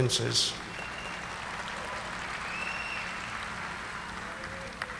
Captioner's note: audience applauding